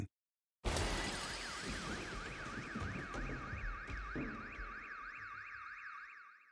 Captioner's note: alarm